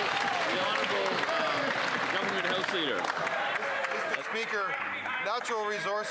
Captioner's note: some Applause